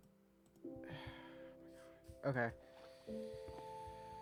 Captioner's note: sigh